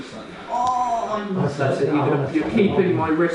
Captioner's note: groans